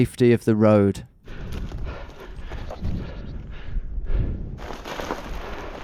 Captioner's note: breathing heavily